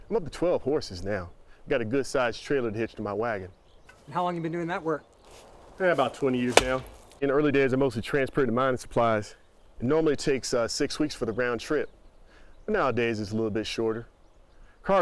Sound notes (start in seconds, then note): none